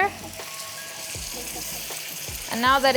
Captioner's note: mixture sizzles